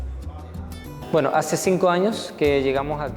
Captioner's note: Spanish